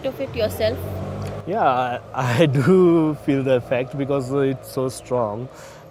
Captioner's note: chuckles